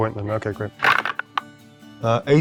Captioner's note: dice rattling